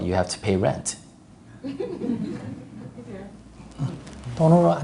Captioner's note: audience Laughter